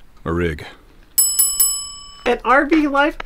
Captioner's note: bell rings